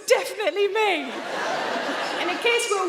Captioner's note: audience laughing